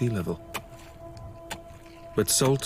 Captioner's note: salt crunching